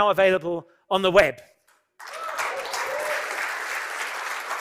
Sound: cheering and applause

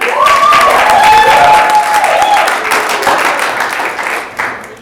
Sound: audience applauding

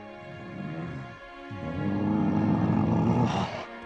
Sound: Appa grunts

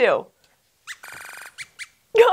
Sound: squeaks squeaks

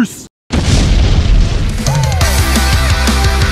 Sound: explosion; driving guitar music

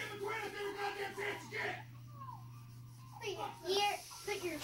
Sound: cursing and yelling in the background

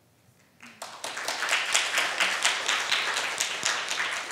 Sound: students clapping

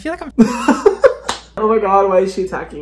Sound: laughs

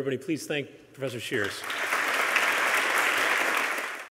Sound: applause

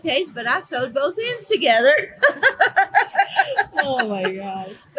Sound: laughing

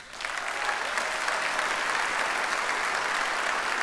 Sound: audience applauds

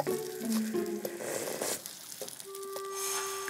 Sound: slurp

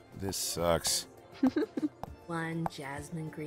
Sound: chuckles

